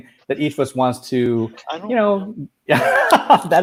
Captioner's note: laughing